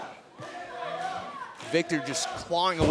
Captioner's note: crowd cheering